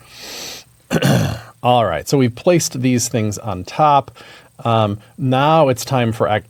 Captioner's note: cough